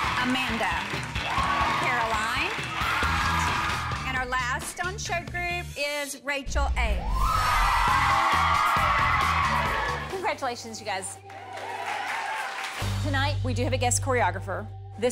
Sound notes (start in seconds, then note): 0.0 group cheers; 7.0 group cheers